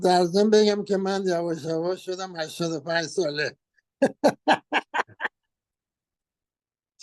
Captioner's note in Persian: خنده